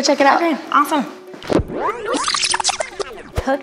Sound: tape fast forwarding

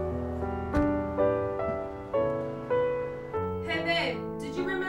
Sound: door thudding

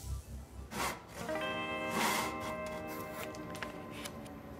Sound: sawing wood

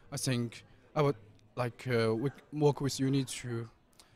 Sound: none

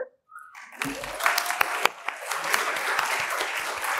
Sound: applause

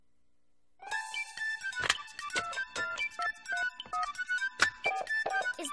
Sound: dialing

